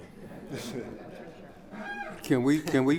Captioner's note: laughing